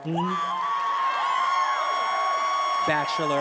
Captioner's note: attendees applauding and cheering